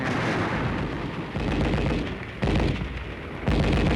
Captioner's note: guns firing